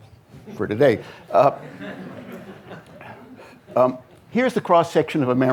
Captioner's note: audience laughing